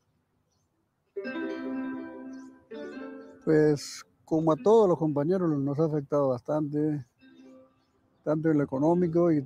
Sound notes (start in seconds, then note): 1.1 dramatic music; 3.4 speaking in foreign language